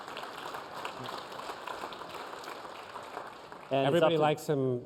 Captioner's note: applause